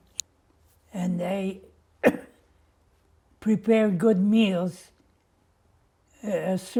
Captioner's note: coughing